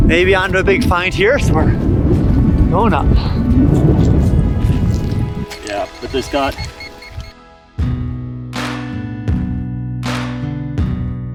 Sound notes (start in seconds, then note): 3.7 wind blowing; 5.3 beeping; 7.1 slow country music